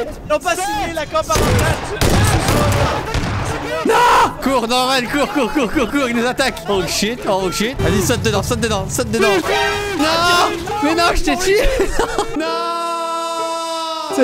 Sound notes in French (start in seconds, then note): 11.9 rire; 12.3 musique triste